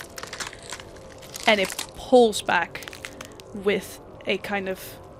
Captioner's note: sounds of bones cracking